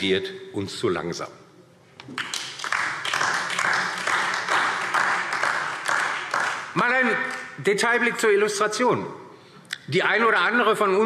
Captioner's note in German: Beifall DIE LINKE und vereinzelt SPD